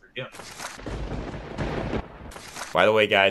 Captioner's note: thunderbolts strike